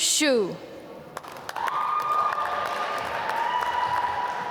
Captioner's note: applause